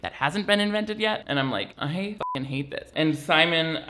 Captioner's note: beeps